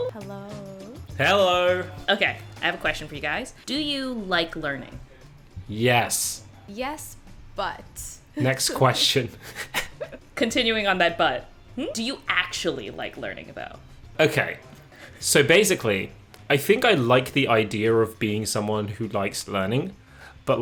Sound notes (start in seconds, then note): 8.4 chuckles